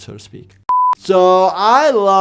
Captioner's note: digital beep